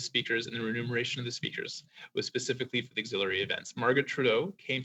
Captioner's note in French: voix de l'interprète